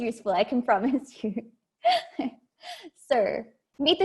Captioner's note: laughs